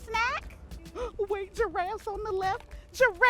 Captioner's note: gasps